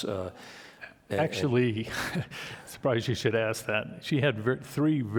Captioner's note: chuckles